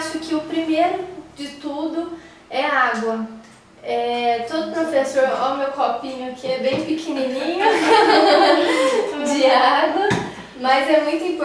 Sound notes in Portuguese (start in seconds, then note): 7.4 risos